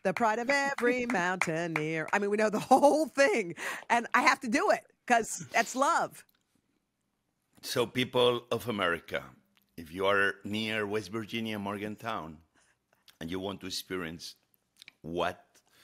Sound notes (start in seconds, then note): 3.5 laughs